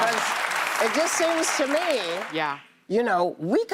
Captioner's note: applause